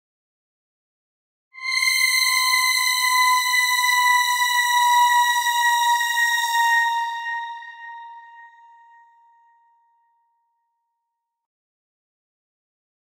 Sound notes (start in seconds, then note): 0.0 sound of ghost siren